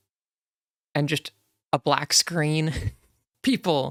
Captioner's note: laughs